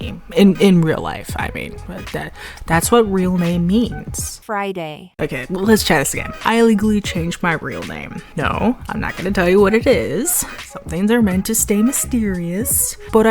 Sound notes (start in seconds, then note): 2.3 inhales; 3.9 text-to-speech voice